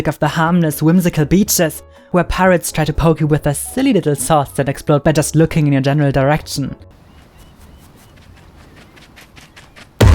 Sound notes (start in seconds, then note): 7.0 walking on sand; 7.0 seagulls